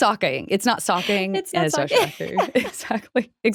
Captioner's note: laughs